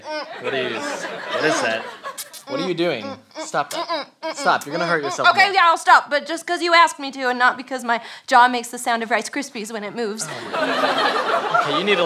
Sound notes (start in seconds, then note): 2.1 still making kissing noises